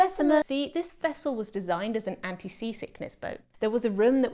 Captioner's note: talking